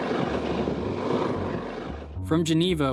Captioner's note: wheels turning